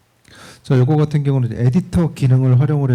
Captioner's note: speaking korean